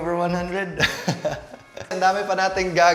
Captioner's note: laughs